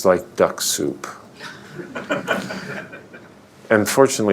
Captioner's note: laughter